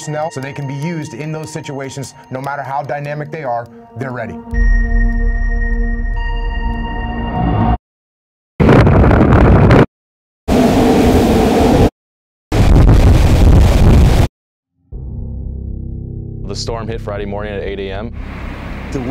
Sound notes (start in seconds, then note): 8.6 wind blasting; 14.8 ominous music